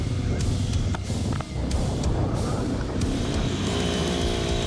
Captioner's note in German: Musik und Motor-Geräusche